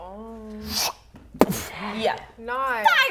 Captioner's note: boof; fwop